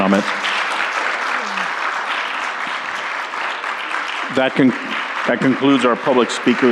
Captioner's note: applause